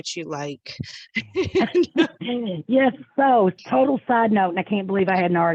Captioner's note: laughing